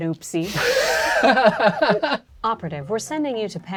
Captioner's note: all laughing